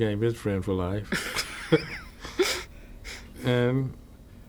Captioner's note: laughter